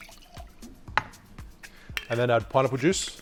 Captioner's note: liquid pours; clinks